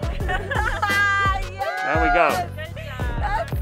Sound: cheering

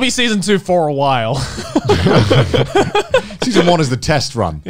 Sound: everyone laughs

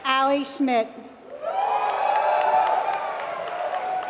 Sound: applause

